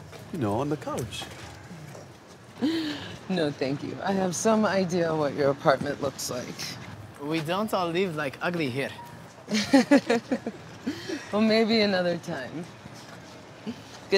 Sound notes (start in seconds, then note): 2.6 laughs; 9.5 Madha laughs